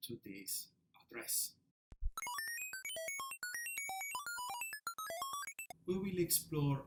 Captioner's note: beeping computer noises